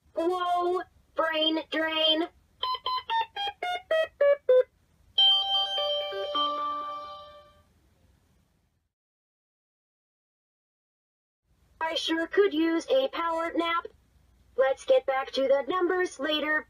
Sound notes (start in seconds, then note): 2.5 beeping powering down